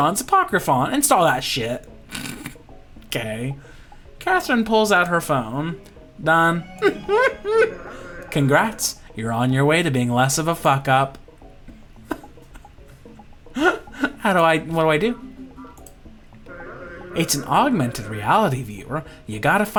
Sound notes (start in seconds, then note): 12.0 laughter